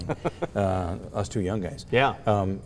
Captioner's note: laughs